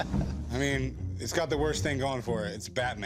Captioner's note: laughs